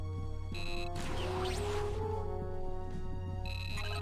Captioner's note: beeps